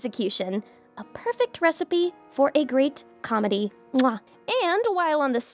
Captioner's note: smooches